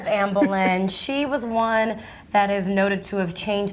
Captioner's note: laughs